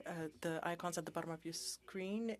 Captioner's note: speaking French